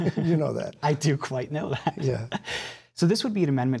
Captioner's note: laughing